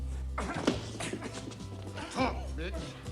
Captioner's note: bartender grunting